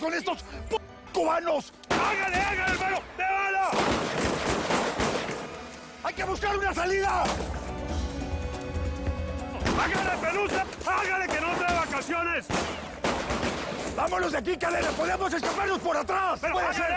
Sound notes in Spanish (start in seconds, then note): 12.4 Disparos